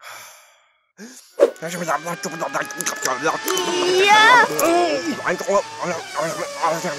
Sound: jabbering; racing cars sound

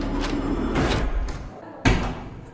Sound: door opens

